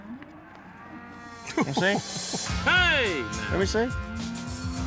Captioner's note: chuckling